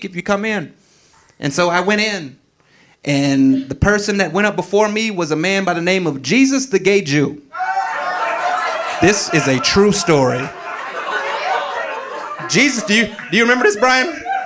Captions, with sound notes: if you come in." And so I went in and the person that went up before me was a man by the name of Jesus, The Gay Jew. (audience laughing) This is a true story. (audience laughing) Do you remember this, Brian?